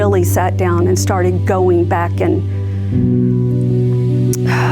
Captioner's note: sighs